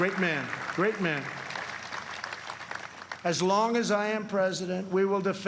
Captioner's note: applause